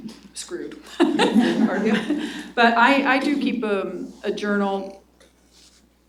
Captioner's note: laughs